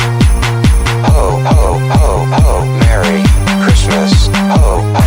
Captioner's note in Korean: 로봇 음성으로